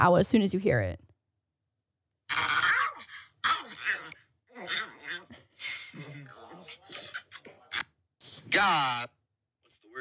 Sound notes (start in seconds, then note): 2.3 animal noises